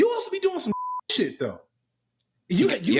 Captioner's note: beep